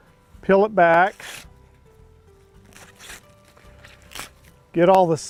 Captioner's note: scrunch sounds